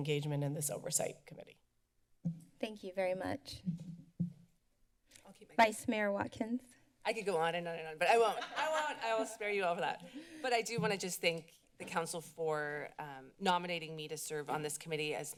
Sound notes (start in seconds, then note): 8.2 laughter